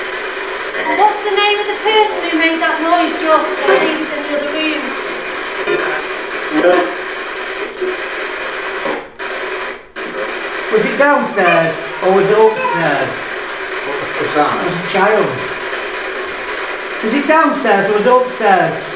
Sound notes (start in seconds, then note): 11.1 child's voice; 12.1 child's voice x2